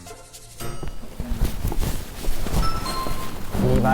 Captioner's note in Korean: 부스럭